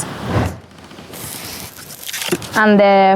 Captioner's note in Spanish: plástico arrugándose